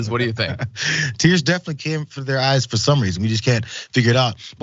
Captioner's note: laugh